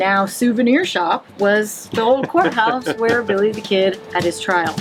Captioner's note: laughing